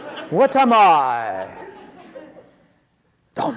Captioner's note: laughter